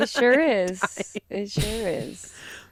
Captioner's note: laughing